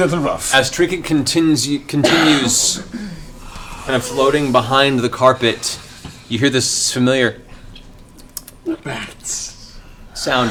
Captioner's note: bat squeaks